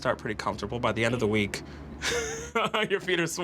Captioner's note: laugh